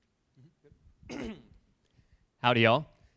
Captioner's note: clears throat